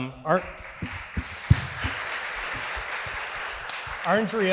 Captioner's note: audience applauding